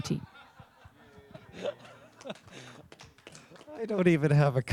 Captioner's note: laughter and applause